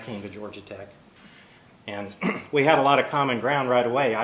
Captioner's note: cough